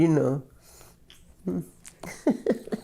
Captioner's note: laughs